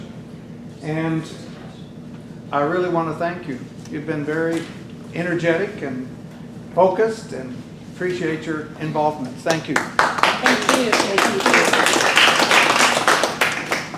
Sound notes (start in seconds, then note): 9.5 group applauds